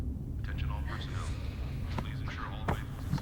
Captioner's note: man On PA